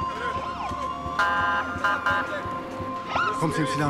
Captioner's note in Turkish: Siren sesleri